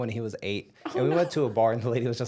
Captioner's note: laughing